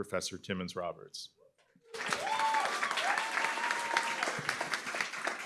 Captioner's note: applause, cheering